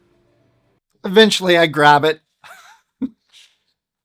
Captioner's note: small laugh